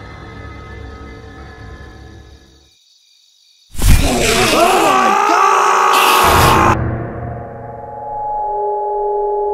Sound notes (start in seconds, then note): 3.8 Enderman screeches; 3.9 both scream